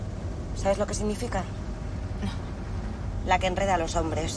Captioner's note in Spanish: none